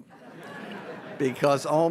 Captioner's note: audience laughs